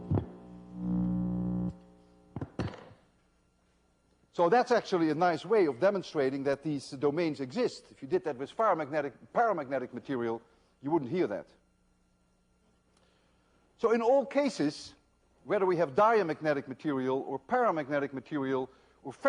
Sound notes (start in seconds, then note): 2.7 buzzing sound